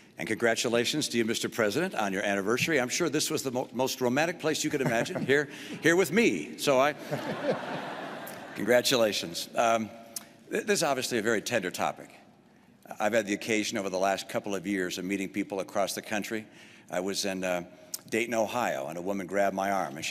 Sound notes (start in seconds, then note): 6.9 laughter